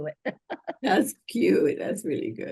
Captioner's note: laughter